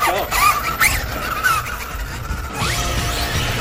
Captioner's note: tires whirring; upbeat music